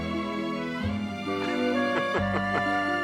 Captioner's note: laughing